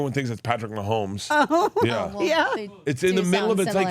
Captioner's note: laughs